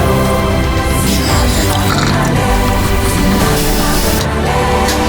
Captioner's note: water gurgling